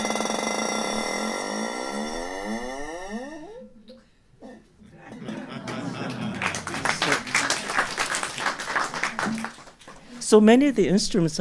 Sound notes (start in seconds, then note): 5.4 applause